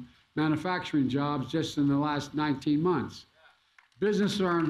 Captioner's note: applause